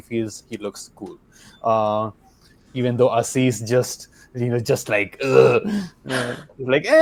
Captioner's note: groans